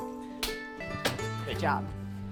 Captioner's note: clapping hands